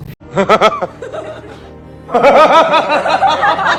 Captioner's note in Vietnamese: tiếng cười